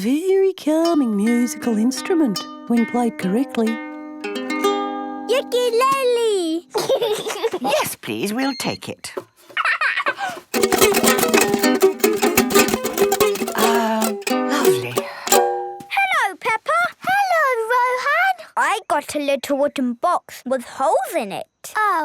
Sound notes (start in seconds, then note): 4.8 gentle strumming; 6.7 giggling; 9.5 giggles; 10.5 vigorous, unpleasant strumming